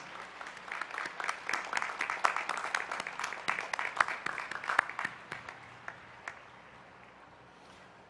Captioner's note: applause